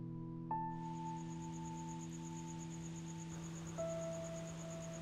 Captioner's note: crickets chirp